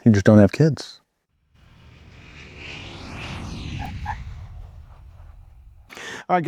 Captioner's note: plane landing and tires squeak